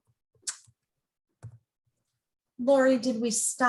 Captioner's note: lips smacking